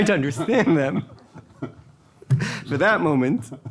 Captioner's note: laughing